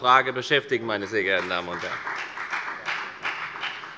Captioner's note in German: Beifall bei der FDP